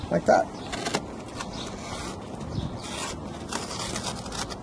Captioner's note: knife slicing